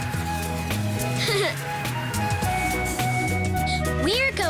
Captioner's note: chuckles